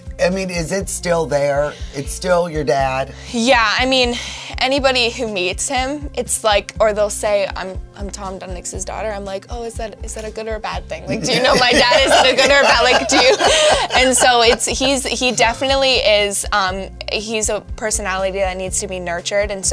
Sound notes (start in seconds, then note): 11.1 laughs